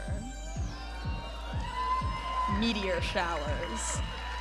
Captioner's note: audience applauding and cheering